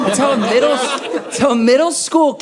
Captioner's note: audience laughing